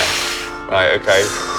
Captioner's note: loud Whooshing